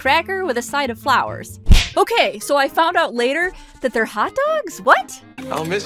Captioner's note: jab noise